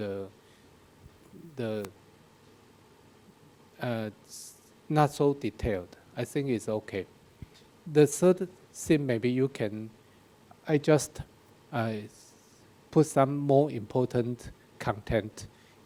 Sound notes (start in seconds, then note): none